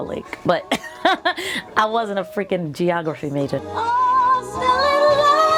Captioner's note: laughs